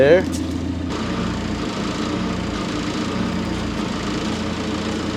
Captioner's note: telehandler rumbles